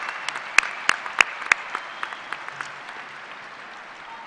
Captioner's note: cheers and applause